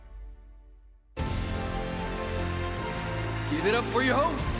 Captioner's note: applause